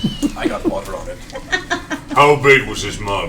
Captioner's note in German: Gelächter